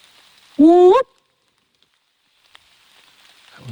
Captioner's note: whooping